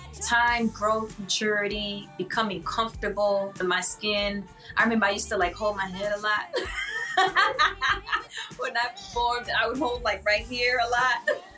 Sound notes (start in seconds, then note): 6.4 laughing